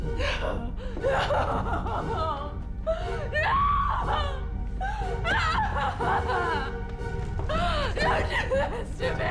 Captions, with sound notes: No! No! (crying) No, don't do this to me.